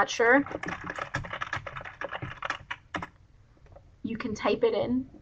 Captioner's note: keyboard clacking